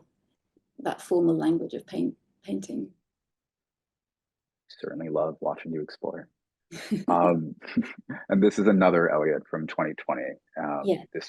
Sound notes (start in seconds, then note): 6.7 laughing